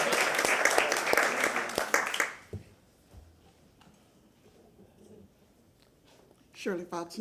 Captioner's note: applause